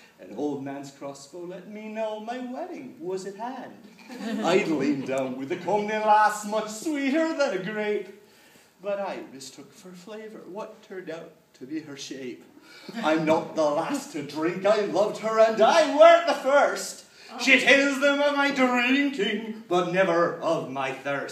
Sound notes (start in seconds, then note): 4.0 laughter; 12.2 audience chuckles